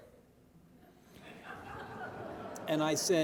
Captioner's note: audience laughing